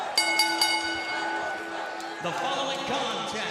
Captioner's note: bell ringing